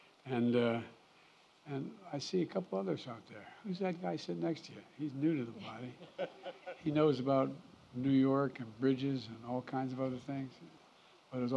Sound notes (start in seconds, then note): 5.9 laughter